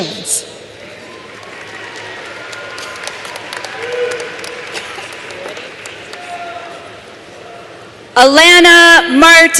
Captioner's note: applause